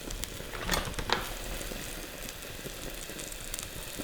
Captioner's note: sizzling